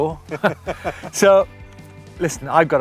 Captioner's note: both laugh; laughs